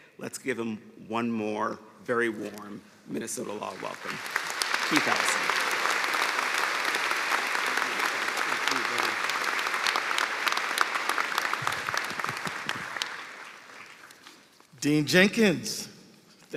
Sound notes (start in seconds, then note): 12.1 applause